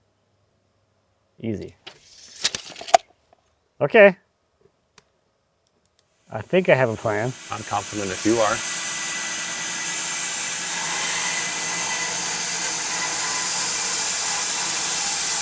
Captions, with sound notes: Easy. Okay, I think I have a plan. - I'm confident if you are. (machinery running)